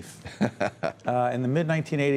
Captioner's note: laughter